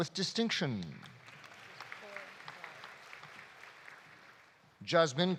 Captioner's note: audience applauding